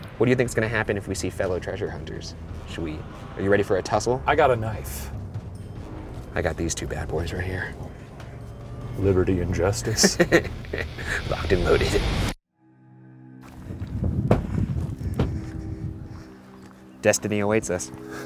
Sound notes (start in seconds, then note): 9.8 laughing; 12.6 suspenseful music